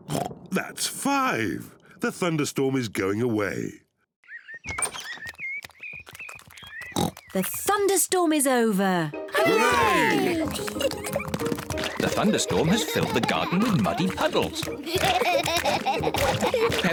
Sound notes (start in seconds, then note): 0.1 oinks; 4.2 birds chirp; 6.9 oinks; 10.4 kids giggle; 15.1 both laughing